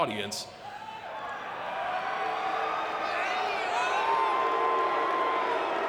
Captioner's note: audience cheering and clapping